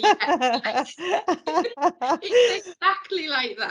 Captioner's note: both laughing